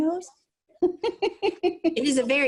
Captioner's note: laughing